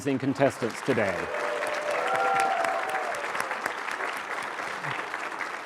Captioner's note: cheering, applause